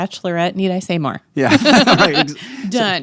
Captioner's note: laughing